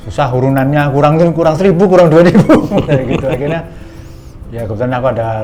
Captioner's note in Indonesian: tertawa